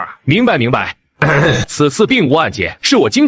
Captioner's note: cough